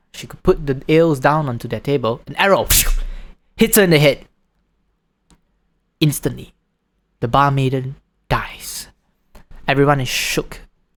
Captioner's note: swoosh